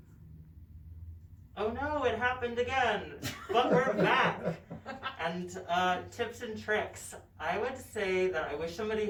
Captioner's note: everyone laughts